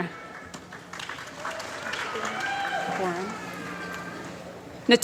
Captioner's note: applause